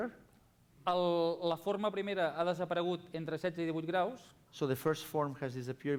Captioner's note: non-english speech